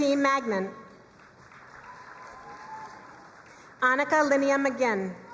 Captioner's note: crowd cheering and applauding